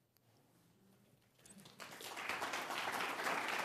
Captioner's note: applause